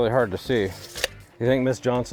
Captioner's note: measuring tape retracting